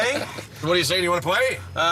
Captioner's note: laughs